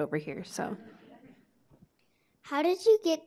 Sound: audience laughing

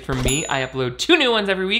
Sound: device ringing

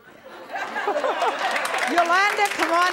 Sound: laughter

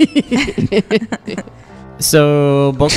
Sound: laughter

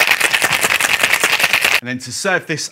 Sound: ice shaking

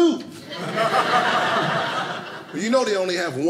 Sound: audience laughing

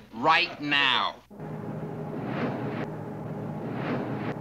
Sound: whirring

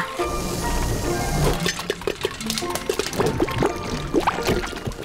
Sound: popping

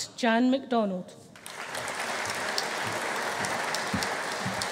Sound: audience applauding

